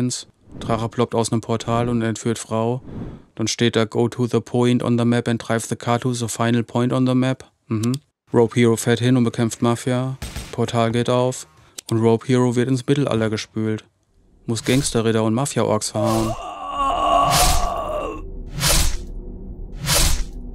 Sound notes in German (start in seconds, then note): 10.2 Schüsse; 15.9 Schlitzen, lautes Ächzen